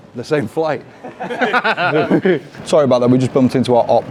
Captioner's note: all laugh